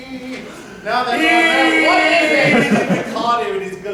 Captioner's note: deep inhale; KO-KO, shouting